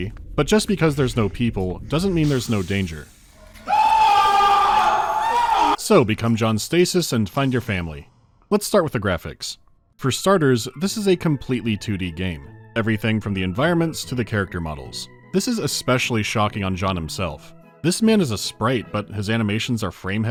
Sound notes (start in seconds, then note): 3.3 loud scream of agony